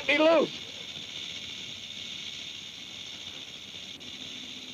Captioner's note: snake rattles